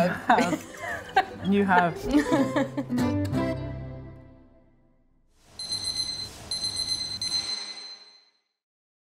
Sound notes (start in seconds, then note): 2.0 laughing; 3.2 gentle music; 5.6 bell ringing